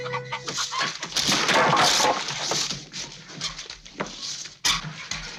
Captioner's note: vegetables clatter